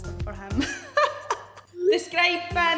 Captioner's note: laughing